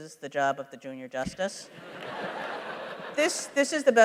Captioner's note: laughter